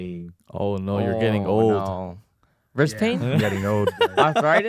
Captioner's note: laughs